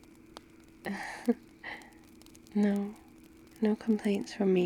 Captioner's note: laughs